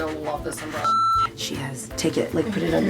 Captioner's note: beep